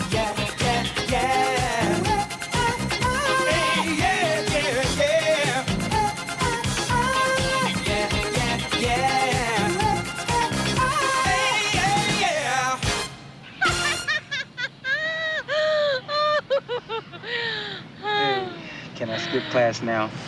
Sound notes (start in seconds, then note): 13.5 laughing